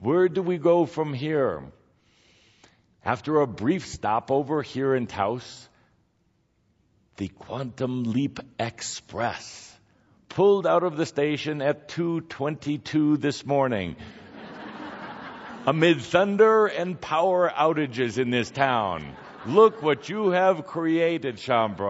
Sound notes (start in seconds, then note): 13.6 audience laughter